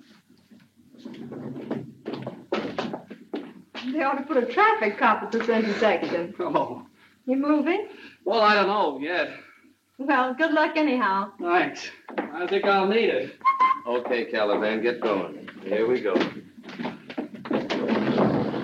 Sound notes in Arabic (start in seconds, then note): 6.6 يضحك; 13.4 يصفر